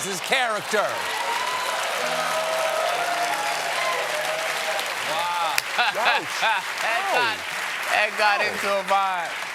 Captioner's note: cheers and applause